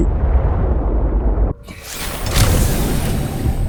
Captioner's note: explosion